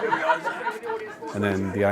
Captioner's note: laughter